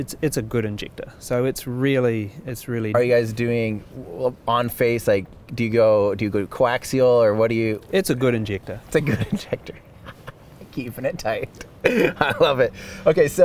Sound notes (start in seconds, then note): 11.3 laughs